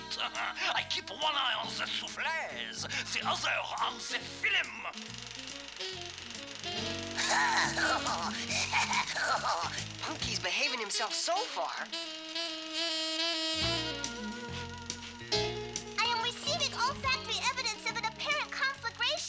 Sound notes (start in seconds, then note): 7.1 laughing; 13.8 sniffing